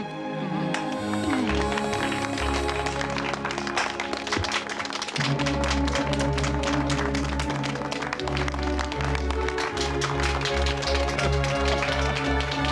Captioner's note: applause